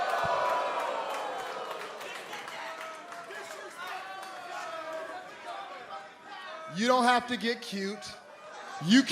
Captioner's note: crowd chatter